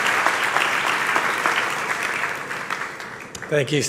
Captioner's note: applause